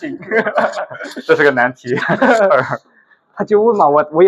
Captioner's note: laughs